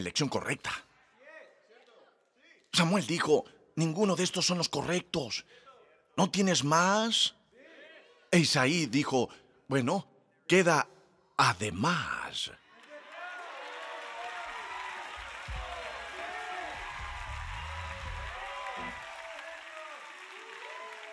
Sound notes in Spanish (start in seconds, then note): 12.5 Aplausos